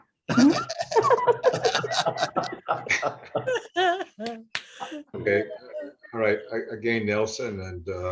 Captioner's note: laughter